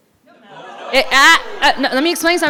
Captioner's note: crowd indistinctly shouting